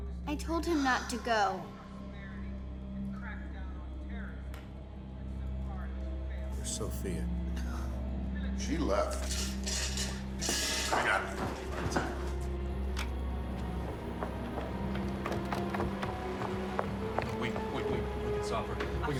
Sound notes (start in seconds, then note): 5.3 reporter speaking faintly; 5.3 tense music; 7.5 Molly sighs